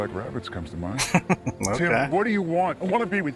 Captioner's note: chuckling